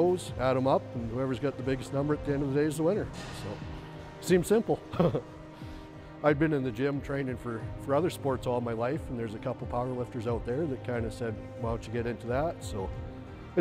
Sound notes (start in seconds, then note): 4.9 laughs